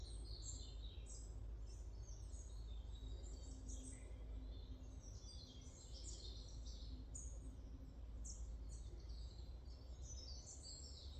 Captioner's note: sounds of the forest